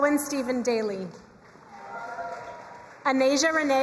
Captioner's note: crowd cheering and applauding